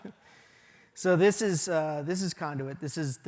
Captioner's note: laughter